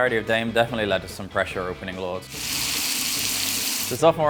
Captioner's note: pan sizzling